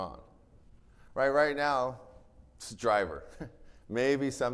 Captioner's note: chuckles